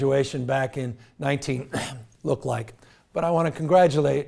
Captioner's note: coughs